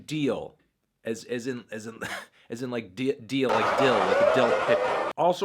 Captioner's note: cough